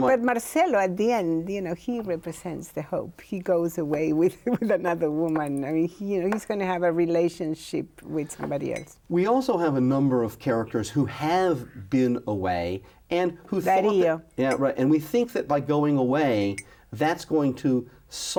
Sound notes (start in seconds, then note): 4.3 laughs